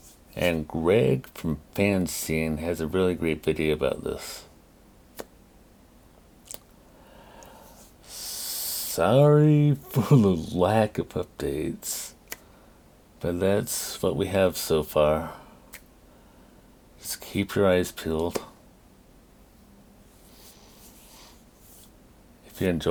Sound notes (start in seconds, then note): 9.8 laughing; 18.6 claps